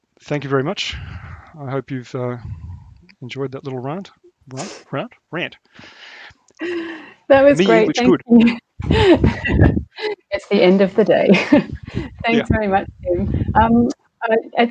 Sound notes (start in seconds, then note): 8.7 laughs